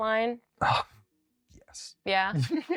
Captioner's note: sighs